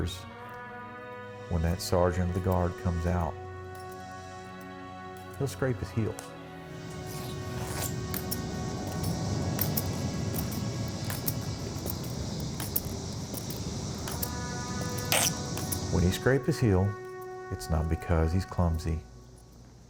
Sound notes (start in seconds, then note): 7.6 shoes scraping